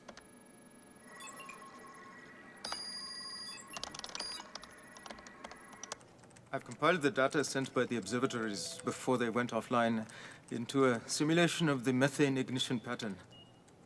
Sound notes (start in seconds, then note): 0.1 bell; 1.0 alarm